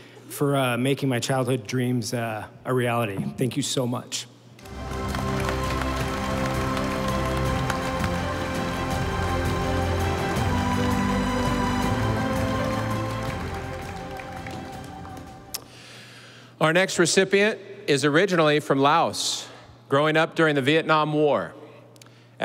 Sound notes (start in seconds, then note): 4.5 audience applauding; 5.7 stately music